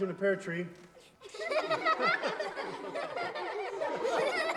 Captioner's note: laughter